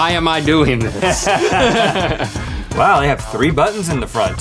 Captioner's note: laugh